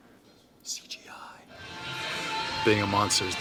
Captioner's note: whispering